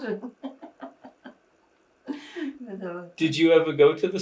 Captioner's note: laughing